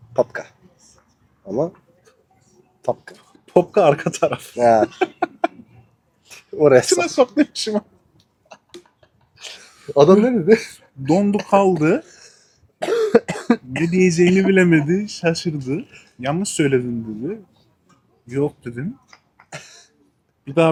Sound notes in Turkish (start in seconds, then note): 4.5 kahkaha; 8.4 kahkaha; 12.8 öksürme